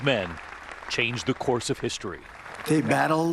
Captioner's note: applause